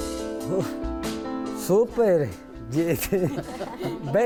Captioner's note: chuckles